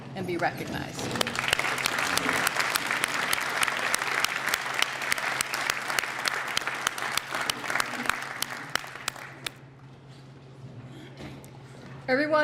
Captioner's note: applause